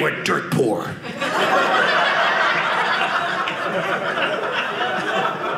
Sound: audience laughing

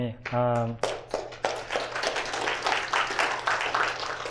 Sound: applause

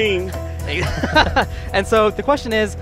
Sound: laughs

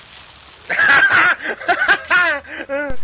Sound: laugh

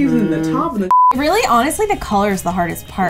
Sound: beeps

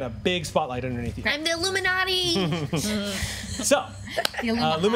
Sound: groans and chuckles

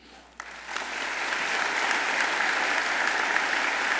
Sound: audience applauds

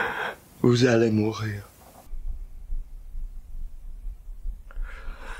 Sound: Jake continues speaking French

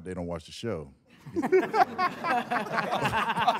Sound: all laughing

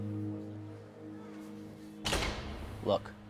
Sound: boys' voices fade; door closes

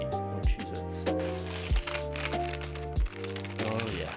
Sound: bag rustling

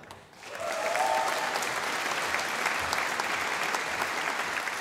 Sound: audience applauding

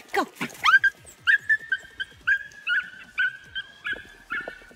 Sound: dog squealing

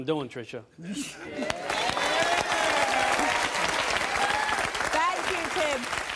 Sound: audience applauding

